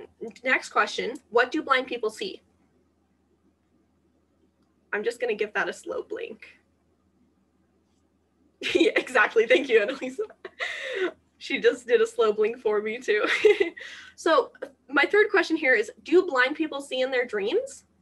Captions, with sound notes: Next question, "What do blind people see?" I'm just going to give that a slow blink. Yeah, exactly, thank you, Anna-Lisa. ( Laughter ) She just did a slow blink for me, too. ( Laughter ) So, my third question here is, "Do blind people see in their dreams?"